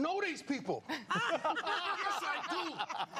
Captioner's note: laughter